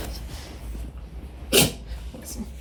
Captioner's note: creature sneezes a third time